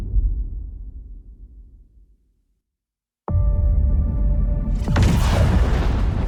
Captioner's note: dramatic sound